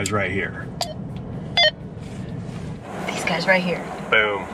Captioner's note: beeps